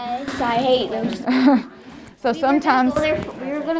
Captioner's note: laughs